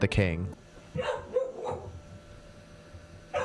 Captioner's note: Cream barking